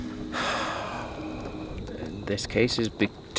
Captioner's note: sighs